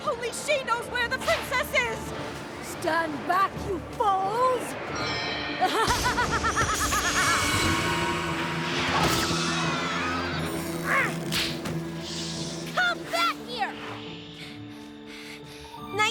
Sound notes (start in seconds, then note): 4.1 zing!; 5.6 laughs evilly; 8.5 ponies scream; 10.3 strains; 11.3 snap!; 13.2 panting